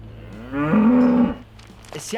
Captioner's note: dolomite cow lowing